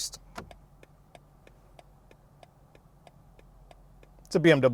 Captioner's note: signal ticking